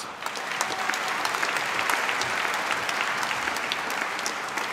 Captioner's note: applause